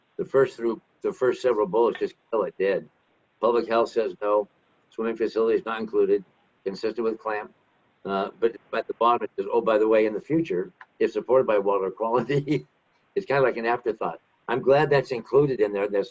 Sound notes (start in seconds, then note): 12.6 laughs